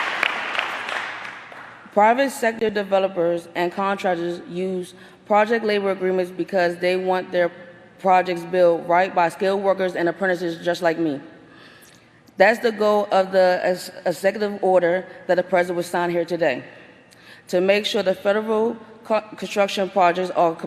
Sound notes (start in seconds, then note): 2.4 applause